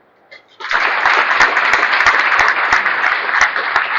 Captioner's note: applause